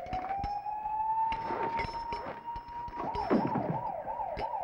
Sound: gun shots; sirens in distance

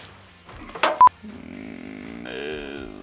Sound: beep; mooing

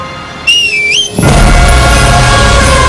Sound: wife whistles

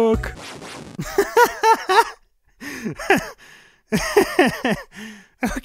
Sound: laughs

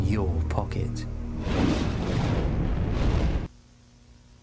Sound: flames Bursts

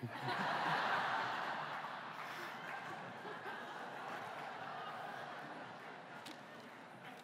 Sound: laughter

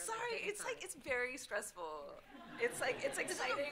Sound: audience laughing

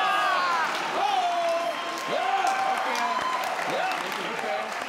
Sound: crowd; crowd cheering

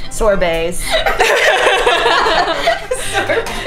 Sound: laughter

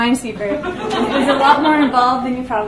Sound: audience laughs

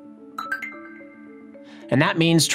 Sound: computer chimes

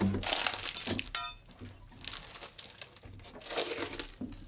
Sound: wood crunching

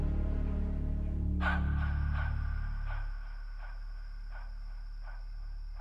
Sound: reverberating sound, music ceases

